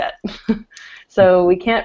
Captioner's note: laughter